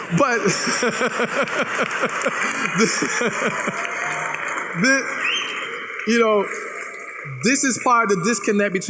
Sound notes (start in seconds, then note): 0.4 laughs; 3.8 applause